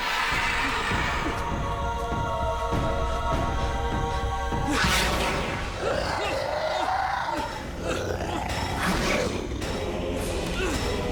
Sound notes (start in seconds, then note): 5.7 growling